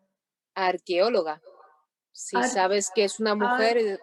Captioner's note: speaking Spanish